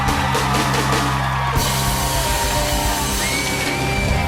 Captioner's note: cheers and applause